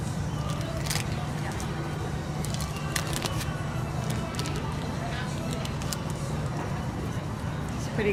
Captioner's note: paper wrapping crinkles